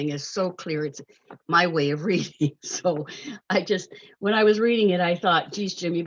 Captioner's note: chuckles